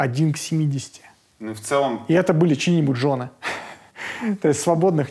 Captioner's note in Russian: смеётся